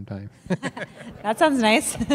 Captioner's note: laughter